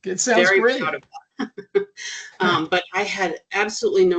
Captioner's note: chuckling